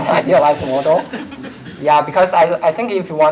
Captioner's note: laughter